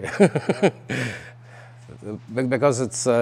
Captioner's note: laughing